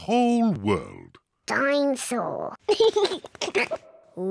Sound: giggles

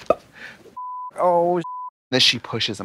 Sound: beep

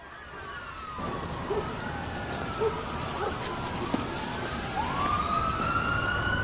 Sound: police sirens and dogs barking

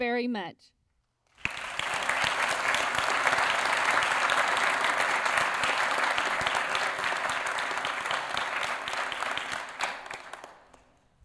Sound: applause

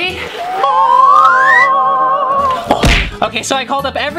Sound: angelic sound

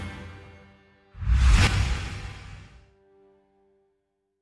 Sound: air whooshing

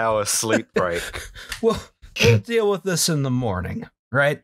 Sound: laughter

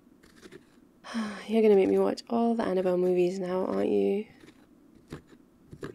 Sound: sigh

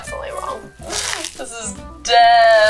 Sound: crunching

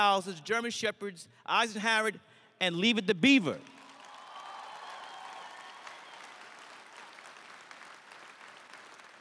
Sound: crowd cheers

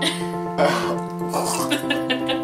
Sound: gross noises and Laughter

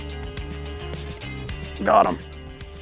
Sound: fishing line whirring

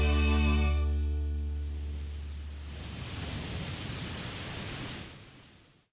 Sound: waves crashing

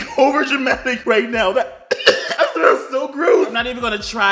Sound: cough

